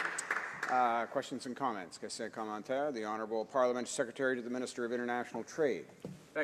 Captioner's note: applause